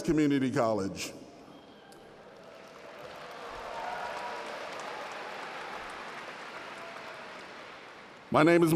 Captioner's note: audience Cheering